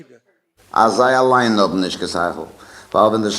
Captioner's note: speaking yiddish